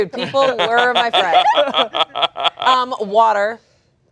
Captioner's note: laughing